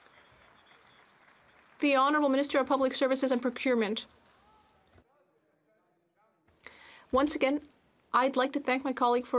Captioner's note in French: applaudissements